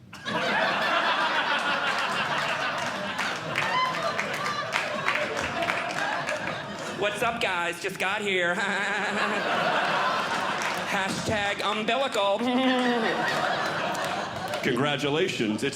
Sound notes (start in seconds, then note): 0.0 audience Laughing; 3.3 audience Clapping; 8.4 audience Laughing; 8.4 laughing; 13.1 audience Laughing